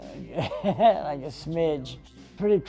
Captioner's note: laughs